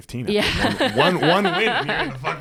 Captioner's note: both laughing